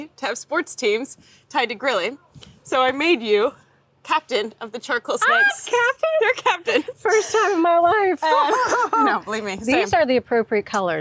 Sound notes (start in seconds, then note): 8.2 laughs